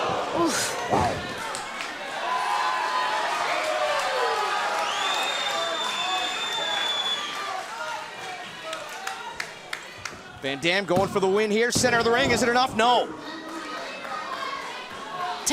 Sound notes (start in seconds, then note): 6.7 cheers & applause